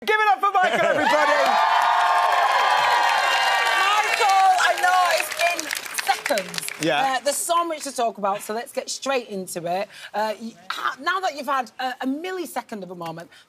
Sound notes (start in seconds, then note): 0.7 audience cheering